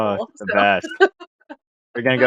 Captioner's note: laughs